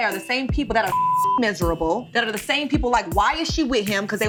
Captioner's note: beep